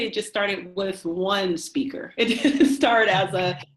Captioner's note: both laugh